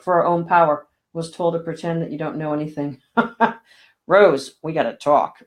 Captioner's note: laughing